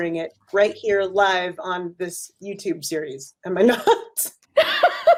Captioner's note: laughs